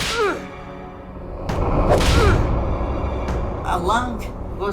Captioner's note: whip cracks; man grunting